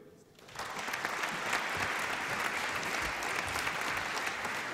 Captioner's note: applause